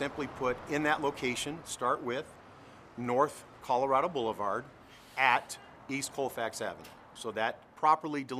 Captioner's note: sounds of vehicles driving on road